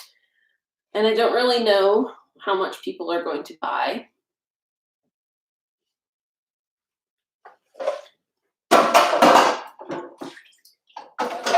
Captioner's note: washing dishes sounds